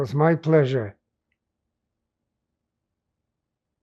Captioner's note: pauses 6 seconds